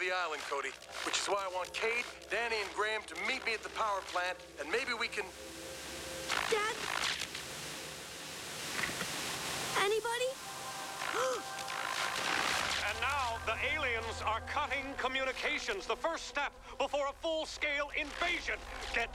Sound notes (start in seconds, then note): 5.7 static; 11.1 gasps